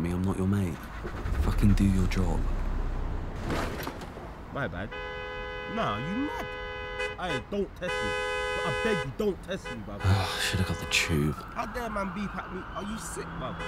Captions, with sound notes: Don't fucking smile at me. I'm not your mate. Fucking do your job. [car stalls] [more car horns] I should have got the Tube.